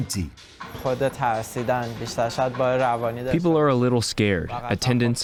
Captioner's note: through translator